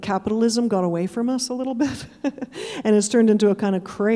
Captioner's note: chuckling